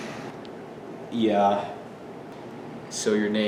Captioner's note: sighs